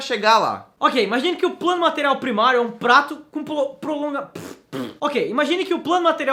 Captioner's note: fart sounds